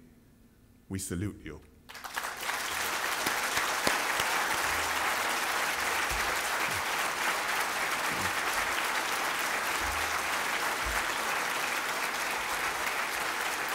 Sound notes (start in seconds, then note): 6.9 applause